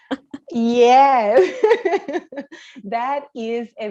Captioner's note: laughs